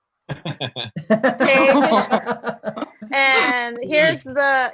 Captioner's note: all laugh